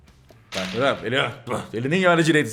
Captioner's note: groans